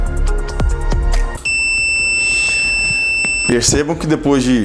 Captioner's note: buzzer beeps